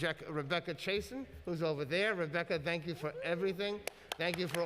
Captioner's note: applause